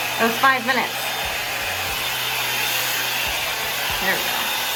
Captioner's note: dryer whirring